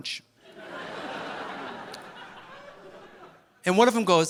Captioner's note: audience laughing